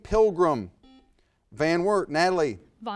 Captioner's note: buzzer buzzes